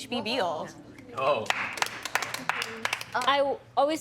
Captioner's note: all applauding